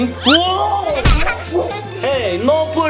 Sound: audio whistles; thuds

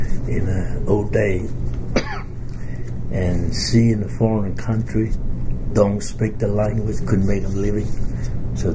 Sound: coughs

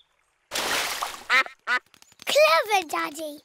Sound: quacks

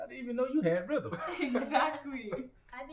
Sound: laughing

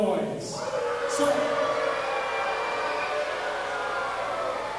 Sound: audience booing

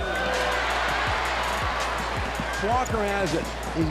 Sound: crowd cheers

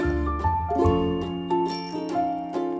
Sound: bike bell

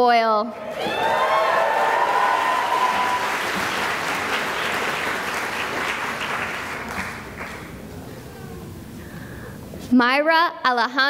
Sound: cheering and applause

